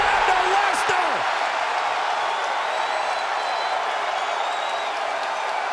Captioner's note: audience applauds and cheers